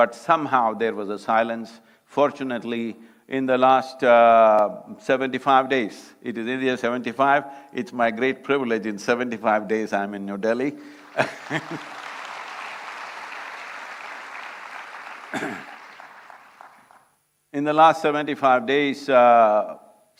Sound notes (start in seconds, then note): 14.8 applause